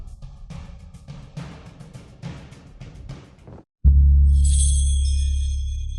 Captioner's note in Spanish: campana